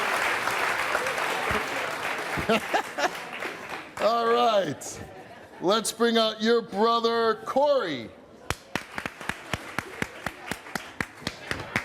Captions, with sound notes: (laughs) - All right, let's bring our your brother Corie. (audience clapping)